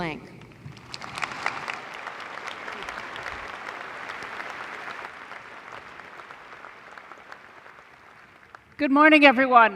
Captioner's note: applause